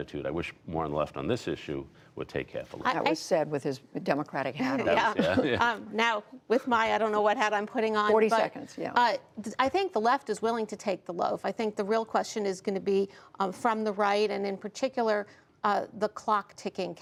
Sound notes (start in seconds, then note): 5.0 laughter